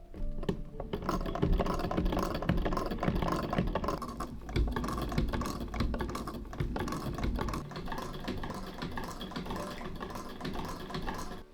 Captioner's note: hand-turned sewing machine ASMR